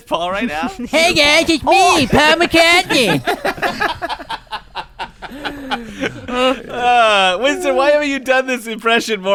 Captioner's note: cackling laughter